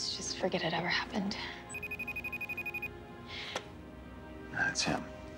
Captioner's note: cell ringing